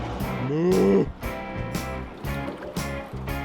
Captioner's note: lighthearted guitar music; moos